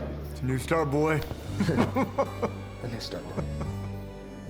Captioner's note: chuckling happily